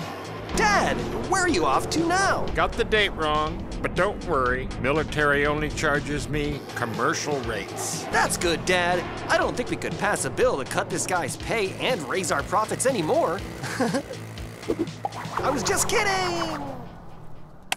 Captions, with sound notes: Dad? Where are you off to now? - Got the date wrong, but don't worry. Military only charges me commercial rates. - That's good, dad. I don't think we could pass a bill to cut this guy's pay I don't think we could pass a bill to cut this guy's pay and raise our profits anymore. (laughs) I was just kidding...!